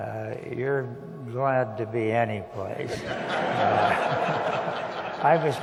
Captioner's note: laughter